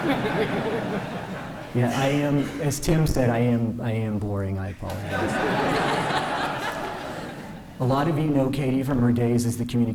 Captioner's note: laughter